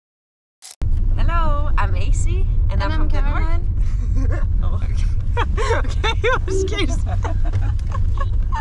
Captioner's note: laughing